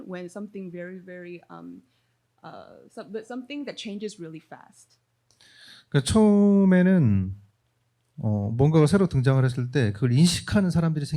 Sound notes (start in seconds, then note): 6.2 speaking korean